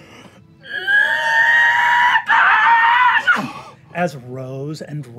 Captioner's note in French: hurlement